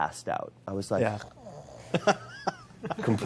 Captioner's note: snoring